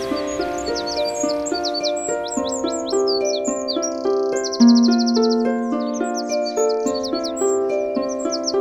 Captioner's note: birds tweeting